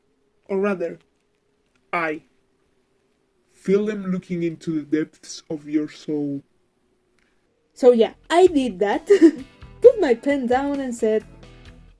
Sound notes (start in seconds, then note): 0.3 voice still distorted; 3.4 voice even more distored; 9.4 small laugh